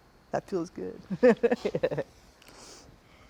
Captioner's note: chuckles